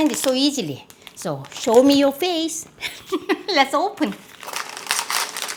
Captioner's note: laughs